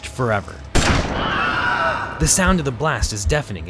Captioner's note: gun fires; man yells